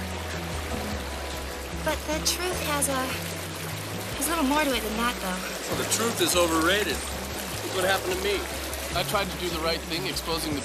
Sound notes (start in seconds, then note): 7.5 tires screeching